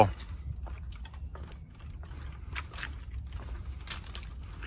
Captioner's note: footsteps tapping